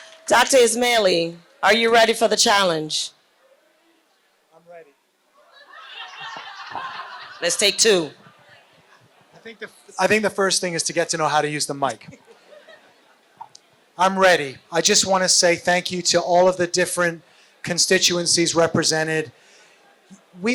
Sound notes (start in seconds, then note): 12.0 laughter